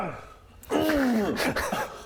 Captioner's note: hrgggh